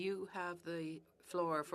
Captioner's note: speaking French